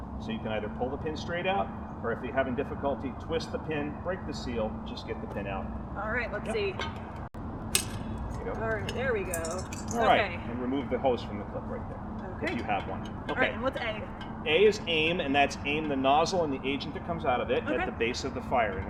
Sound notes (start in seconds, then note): 7.7 pin clicking